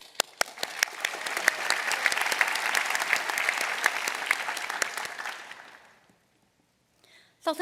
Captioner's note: applause